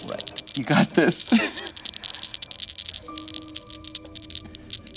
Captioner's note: dice clattering